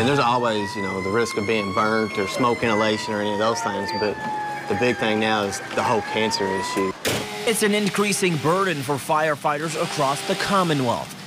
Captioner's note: sirens